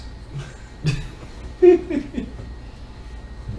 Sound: chuckles

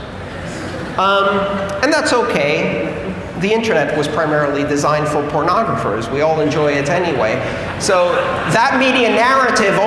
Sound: laughter

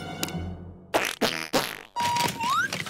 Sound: squeaking

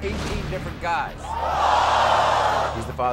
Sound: audience screams

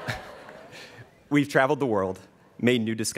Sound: students cheering

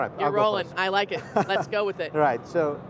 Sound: chuckling

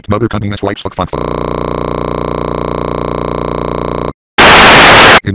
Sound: glitches; tv static

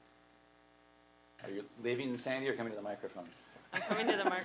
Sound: audio distortion

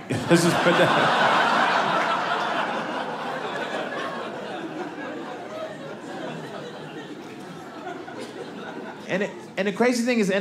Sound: audience laughing

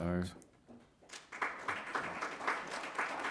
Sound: applause

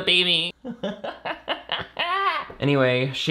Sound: laughs

